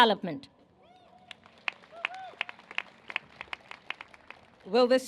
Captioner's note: cheers and applause